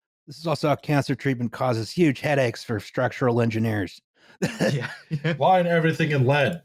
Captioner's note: laughs